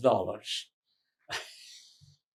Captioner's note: laughing